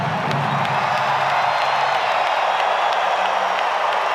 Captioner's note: crowd cheering